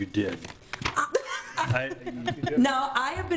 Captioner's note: laughs